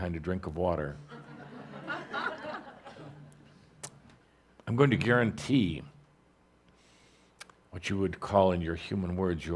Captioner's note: laughter as takes a sip